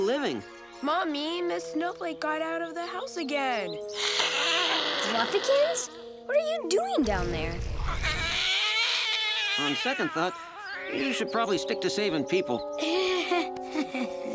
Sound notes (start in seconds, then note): 3.9 hissing; 7.8 yowling; 12.8 chuckles